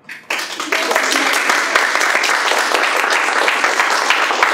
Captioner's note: applause